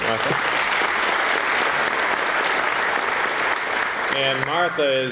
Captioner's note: applause